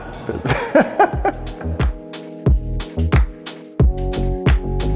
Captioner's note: laughing